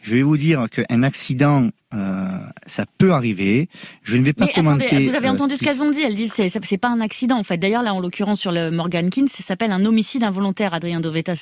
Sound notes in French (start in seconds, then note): 4.7 Voix journaliste